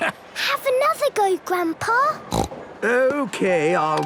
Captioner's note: snorts